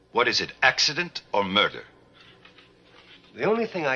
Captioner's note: none